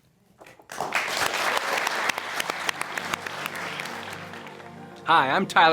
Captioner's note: audience applauding